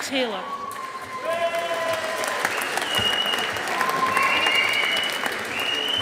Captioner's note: audience applauding